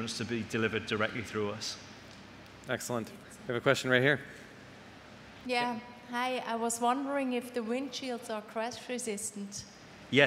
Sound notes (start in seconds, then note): none